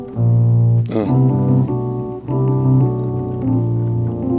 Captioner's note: grunts